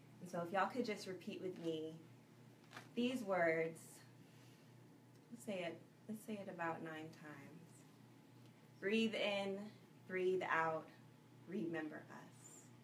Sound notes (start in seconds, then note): 4.2 breathes in